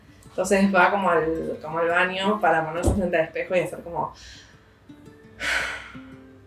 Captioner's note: deep breaths